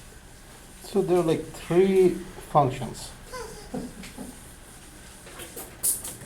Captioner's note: voiceover